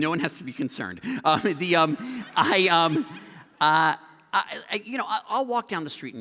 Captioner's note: laughter